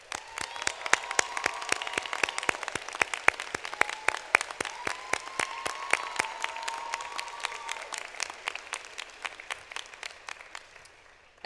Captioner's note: applause